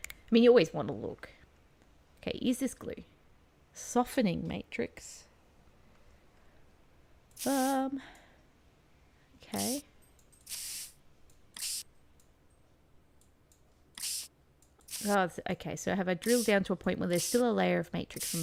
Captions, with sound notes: i mean you always want to look. okay is this glue? "softening matrix"? Ummmm... okay [spraying water sound] Oh okay so have I drilled down to a point where there's still a layer of matrix on